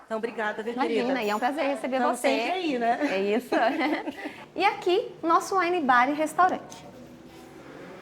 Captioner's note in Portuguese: risadas